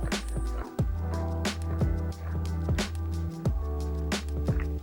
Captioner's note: adhesion crunching